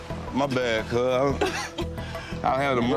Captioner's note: person coughs